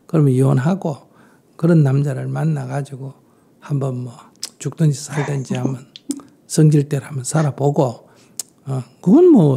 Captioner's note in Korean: 질문자 웃음